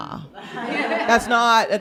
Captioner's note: laughter